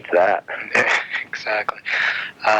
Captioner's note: laughs